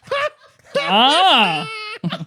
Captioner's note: laughing